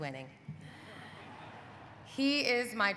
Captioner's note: audience laughing